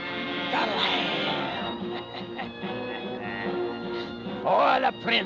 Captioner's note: cackling